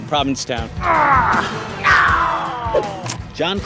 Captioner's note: grunting